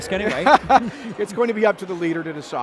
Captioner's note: laughing